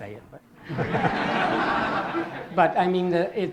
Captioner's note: laughter